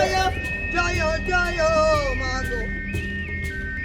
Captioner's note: chanting continues